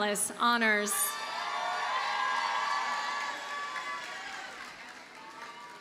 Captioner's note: audience cheers and applauds